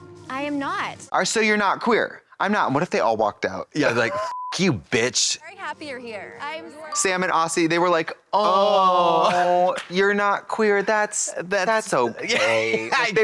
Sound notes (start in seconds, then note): 4.1 beep